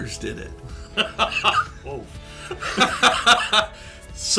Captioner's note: both laugh